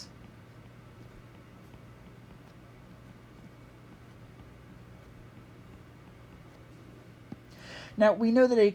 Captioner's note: writing